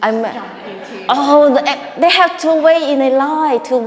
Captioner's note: audience laughing